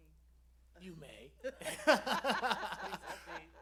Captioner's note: laughter